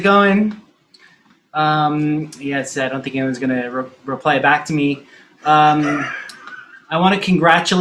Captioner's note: man laughing offscreen